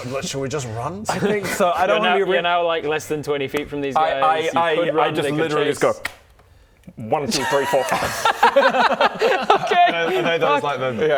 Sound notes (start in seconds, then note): 7.3 chaos gremlin laughter